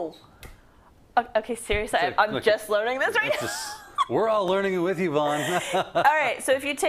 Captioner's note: laugh